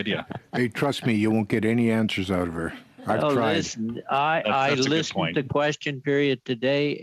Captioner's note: laughter